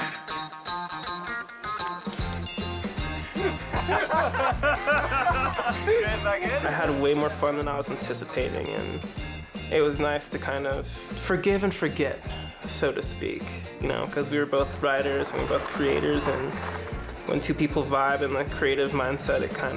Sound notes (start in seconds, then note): 0.0 upbeat music; 3.2 both laughing